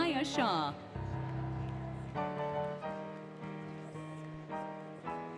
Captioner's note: applause, Cheering, Music